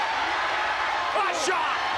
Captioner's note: spectators cheering